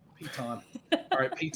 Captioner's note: laughing